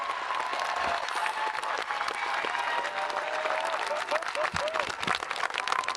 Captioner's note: audience applauding and cheering